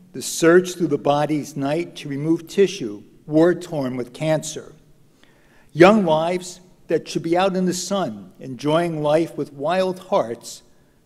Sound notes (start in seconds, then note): none